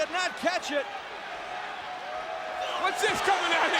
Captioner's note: crowd cheering